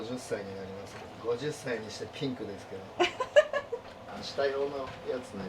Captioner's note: laughs